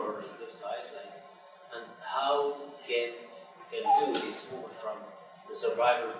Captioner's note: chair creaking